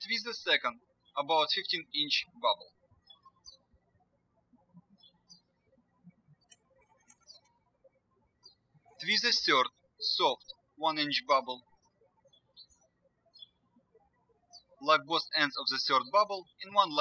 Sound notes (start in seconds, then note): 4.3 birds chirping